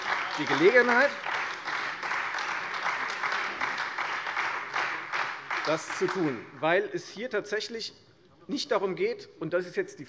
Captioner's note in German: Beifall Freie Demokraten und SPD